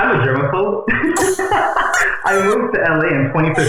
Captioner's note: laughing